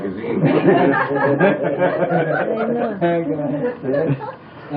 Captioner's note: laughter